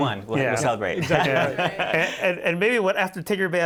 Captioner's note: laughter